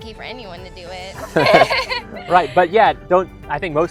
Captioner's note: laugh